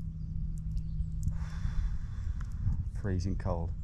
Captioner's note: exhales